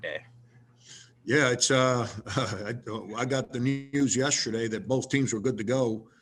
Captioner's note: laughs